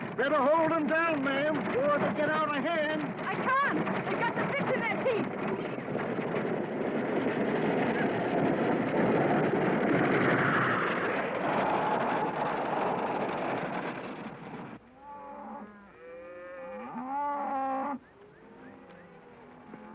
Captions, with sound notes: Better hold them down, ma'am before they get out of hand. - I can't, they've got the bits in their teeth. (wagon rattling) (cows mooing)